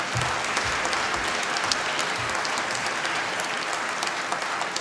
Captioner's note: applause